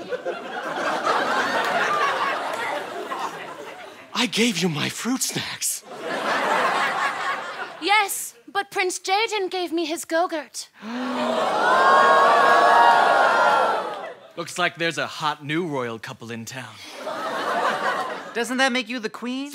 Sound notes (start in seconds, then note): 0.0 audience laughter; 5.8 audience laughter; 10.8 gasping; 16.9 laughter